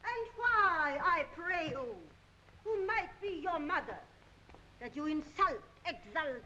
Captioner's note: none